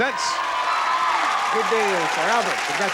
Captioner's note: cheers and applause